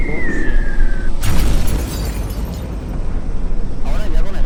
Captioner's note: bomb drops